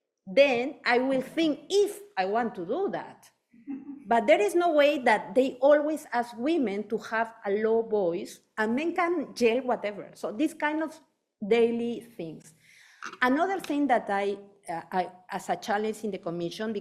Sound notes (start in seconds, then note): 3.6 audience member chuckling